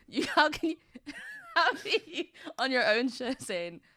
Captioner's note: laughs